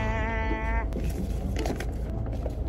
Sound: crinkling

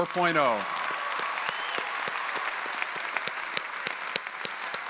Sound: audience applauding

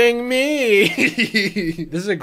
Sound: laughs

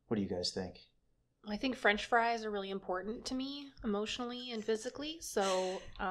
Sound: laughter

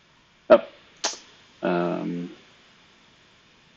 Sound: clicks

